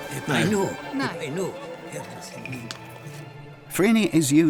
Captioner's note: people speaking in Greek